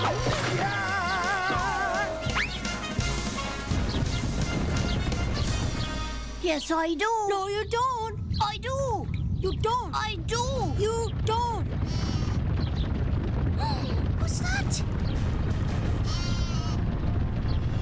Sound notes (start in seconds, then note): 12.0 stampeding; 13.1 gasps